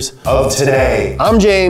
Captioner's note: voice echoing